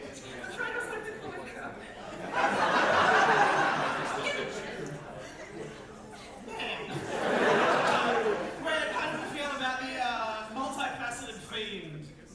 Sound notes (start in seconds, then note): 2.0 audience laughter